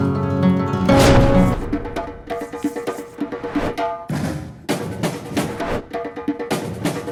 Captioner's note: thunder crashing; upbeat drum music